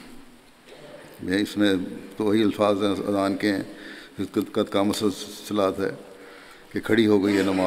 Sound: Arabic

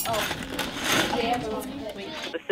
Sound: classroom noise

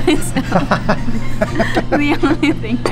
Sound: laughing

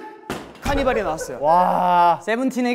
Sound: haha

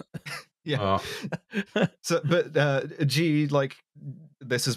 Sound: chuckles

